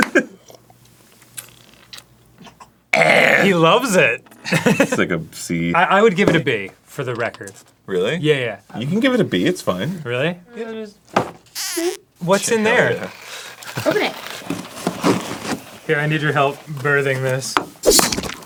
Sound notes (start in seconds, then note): 3.0 grumbles; 17.8 stabs